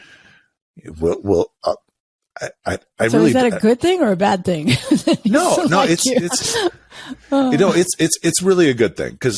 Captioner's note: laughs